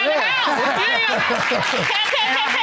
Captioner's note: laughing